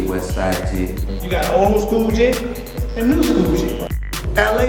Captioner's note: voiceover